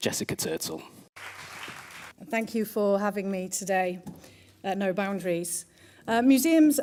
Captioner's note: applause